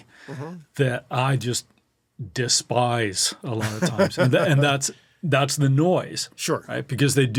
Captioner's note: laughs